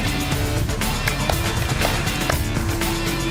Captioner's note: clapping